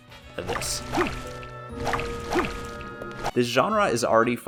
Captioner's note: sad whip noises